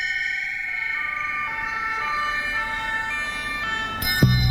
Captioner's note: police siren sounds